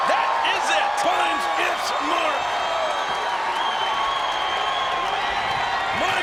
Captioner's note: audience cheering